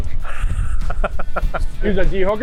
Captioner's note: laughs